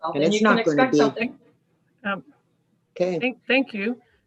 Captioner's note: group chattering